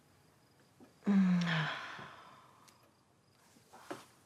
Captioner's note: Emma sighs